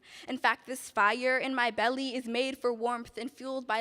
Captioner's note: none